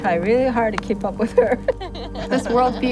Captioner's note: laughs